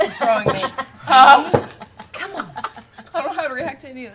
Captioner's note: whispers